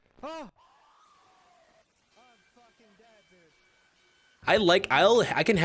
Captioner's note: extremely loud jumpscare noises, reduced by 18 decibels